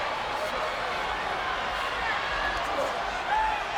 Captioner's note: crowd chattering